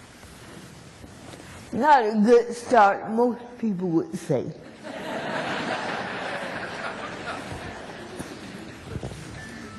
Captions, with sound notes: NOT A GOOD START, MOST PEOPLE WOULD SAY. [ LAUGHTER ]